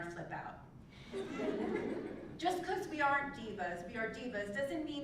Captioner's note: laugh